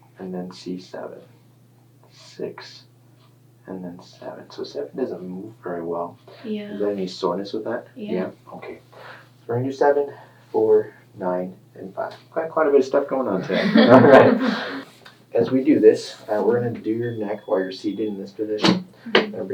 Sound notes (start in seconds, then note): 13.3 laughing